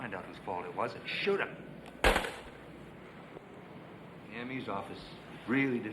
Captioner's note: phone thuds